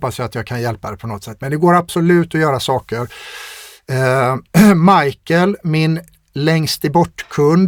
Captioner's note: clears throat